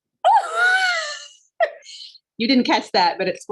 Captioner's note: laughs